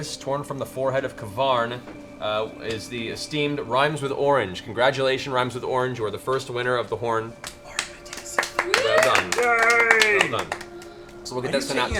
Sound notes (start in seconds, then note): 7.3 everyone claps